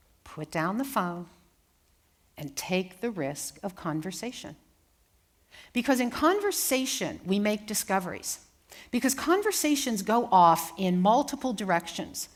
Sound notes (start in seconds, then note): none